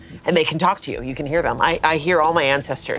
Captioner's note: none